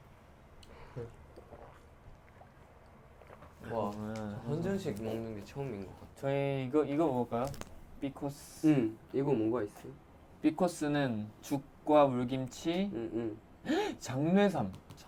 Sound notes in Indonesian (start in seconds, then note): 1.0 Sluurp